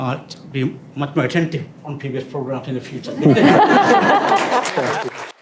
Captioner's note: laughter